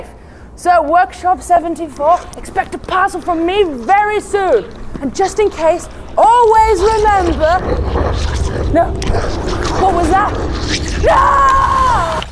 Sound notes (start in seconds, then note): 6.5 whispers, growls and tearing; 11.0 constance screams